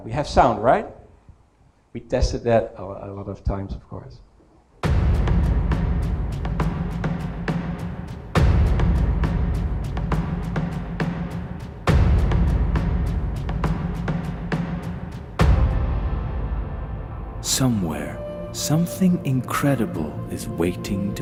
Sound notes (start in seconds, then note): 4.8 video starts playing with dramatic sound